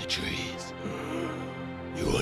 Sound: boy gasps

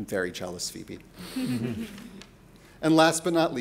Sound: panelists chuckling

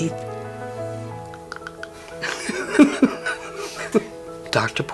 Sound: laughs

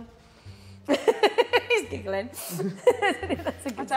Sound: woman 2 laughing

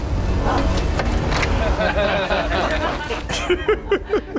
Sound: grunтs; МЕN LAUGНlNG; laugнs

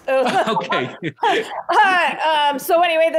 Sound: laughs

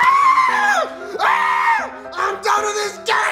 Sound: screams

